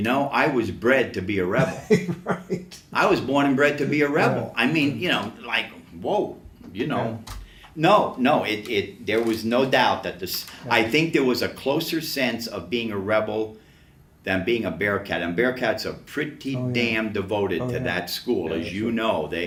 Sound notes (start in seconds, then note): 1.5 laughs